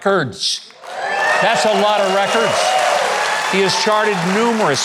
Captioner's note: crowd cheering